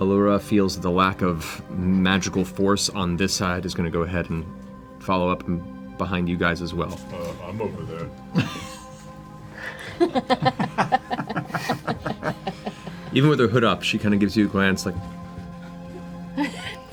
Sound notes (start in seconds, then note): 9.7 all laugh